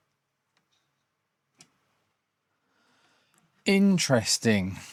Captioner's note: silence